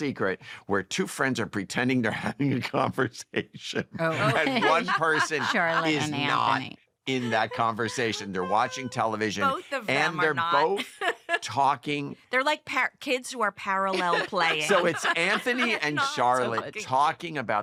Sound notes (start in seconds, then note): 2.0 chuckles; 10.6 laughs; 13.9 laughter